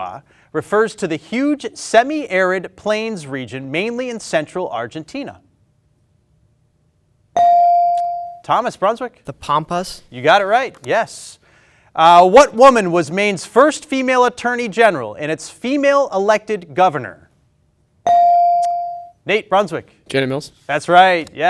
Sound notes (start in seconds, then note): 7.4 ding chimes